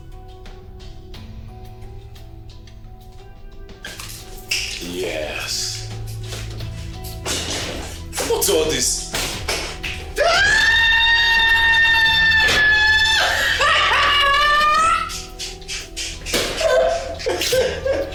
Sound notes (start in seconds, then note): 10.1 hysterical screaming; 16.3 breaks out into laughter